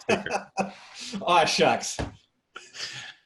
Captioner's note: laughs